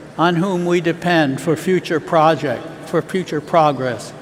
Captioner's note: none